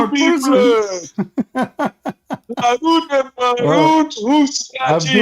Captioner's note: Ketawa